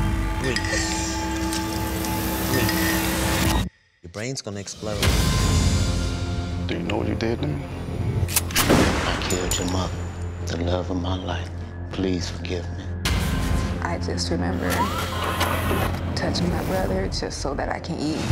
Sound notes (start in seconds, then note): 8.5 gunshot